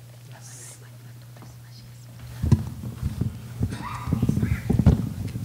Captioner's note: coughing and shuffling